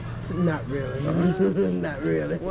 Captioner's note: laughter